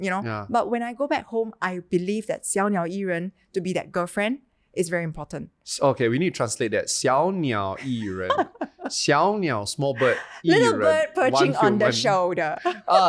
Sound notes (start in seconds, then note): 2.5 speaks in Chinese; 6.9 speaks in Chinese